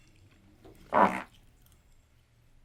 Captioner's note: loud fart